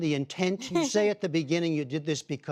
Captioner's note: laughter